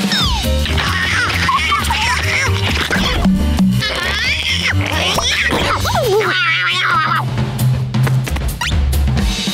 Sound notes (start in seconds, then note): 0.6 meowing; 3.8 yowling